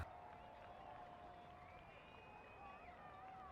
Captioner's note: cheering